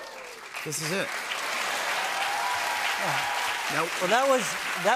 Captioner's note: cheers and applause